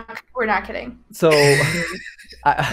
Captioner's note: laughs